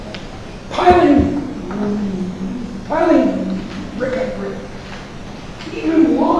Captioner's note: speaking softly